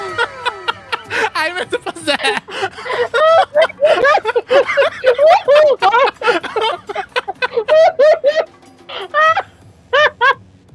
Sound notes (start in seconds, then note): 0.0 via Discord soundboard; 0.9 laughing; 4.8 wailing and laughing